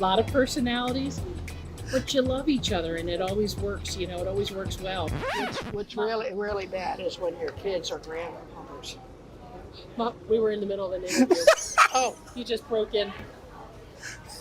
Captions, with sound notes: A lot of personalities, but you love each other, and it always works. It always works well. - What's really bad is when your kids or grandkids... - Mom, we were in the middle of an interview. (laughs) You just broke in.